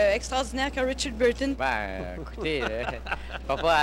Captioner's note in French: rires